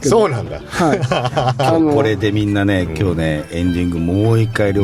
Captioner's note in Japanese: 笑い